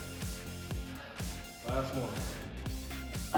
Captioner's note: exhaling